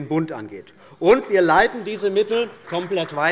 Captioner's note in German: Beifall bei der CDU und dem BÜNDNIS 90/DIE GRÜNEN